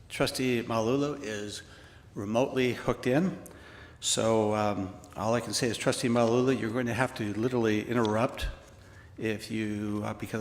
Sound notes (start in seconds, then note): none